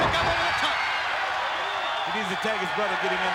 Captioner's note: crowd cheering